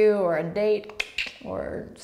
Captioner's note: tongue clicks